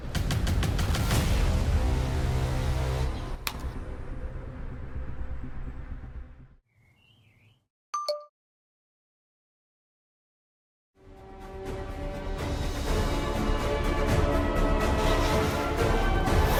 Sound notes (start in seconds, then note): 0.0 dramatic music; 7.9 ding; 13.1 triumphant music